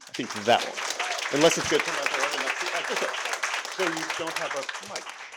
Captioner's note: audience applauding; speaking off-mic